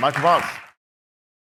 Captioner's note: applause